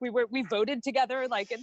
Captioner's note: laughs